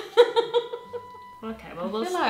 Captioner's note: laughing